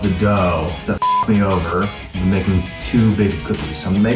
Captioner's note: beep